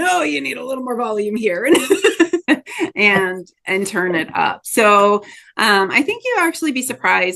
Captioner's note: laughs